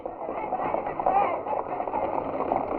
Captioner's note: horses galloping